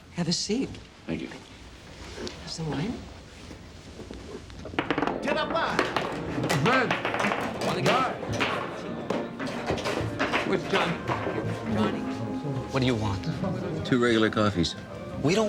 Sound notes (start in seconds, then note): 4.8 ball rattles; 5.6 patron speaks foreign language; 7.1 people chattering; 7.9 light music